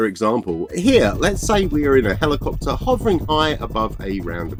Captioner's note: sound of helicopter's rotors